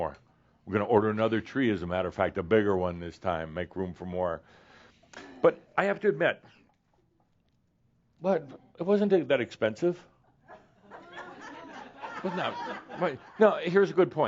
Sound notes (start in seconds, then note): 6.8 groans; 10.1 some chuckles